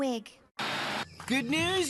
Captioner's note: static Sounds